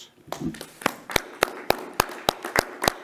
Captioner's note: clapping